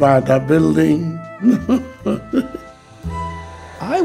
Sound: laughs

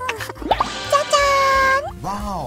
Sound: spitting out

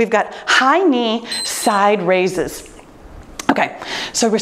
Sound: timer beeps

